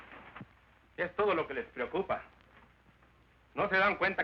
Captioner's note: speaking spanish